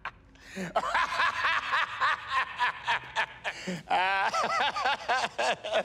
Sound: laughing continues

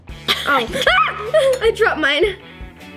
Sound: squeals

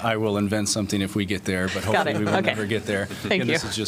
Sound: laughter

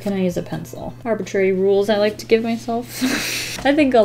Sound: chortle

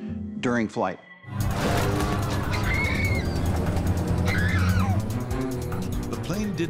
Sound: tense music; passengers scream

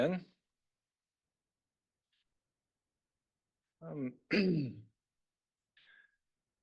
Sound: clears throat

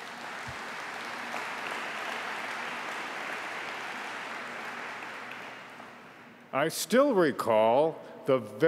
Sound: applause

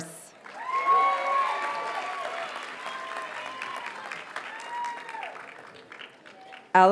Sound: audience cheers and applauds

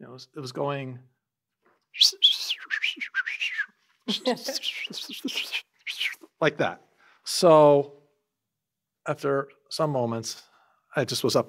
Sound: bird whistling sounds

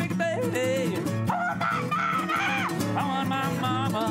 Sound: screaming

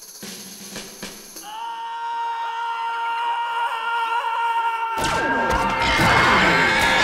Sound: yelling

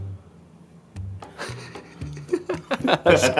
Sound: giggling

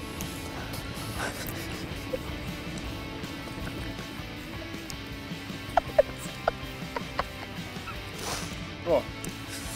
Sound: laughter

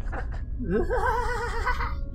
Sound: fake laughter

